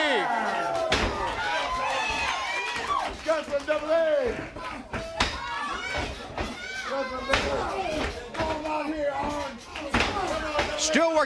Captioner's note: crowd cheering